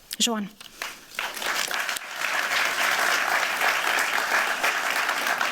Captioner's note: applause